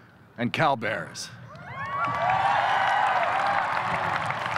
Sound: audience cheers

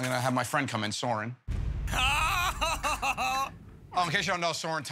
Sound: laughs

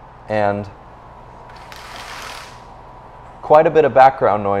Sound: window shade raising

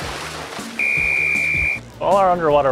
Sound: water splashing; upbeat music continues; whistle blowing

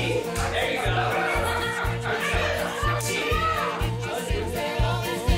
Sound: people laughing; upbeat music

